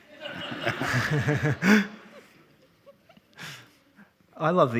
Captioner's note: all laughing